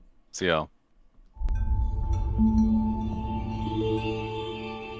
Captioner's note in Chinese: 音效